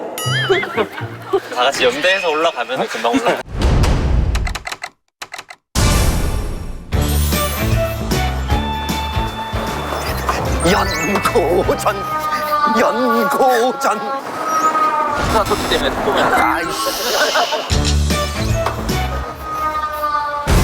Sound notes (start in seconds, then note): 12.0 construction noise; 14.2 whrrrr; 14.2 whrrrrrrrr; 14.2 construction noise 22; 19.0 construction noise 333